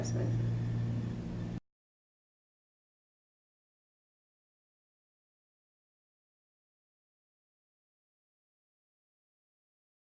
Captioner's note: silence